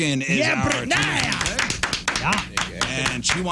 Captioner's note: clapping